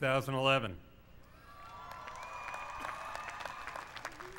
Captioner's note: applause